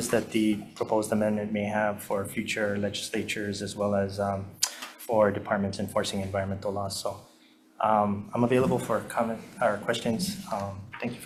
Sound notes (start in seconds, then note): none